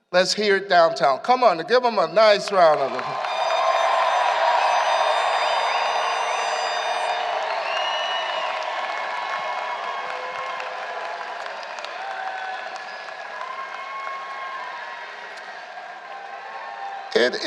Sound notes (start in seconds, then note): 2.2 applause